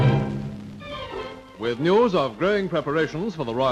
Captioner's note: dramatic music; voiceover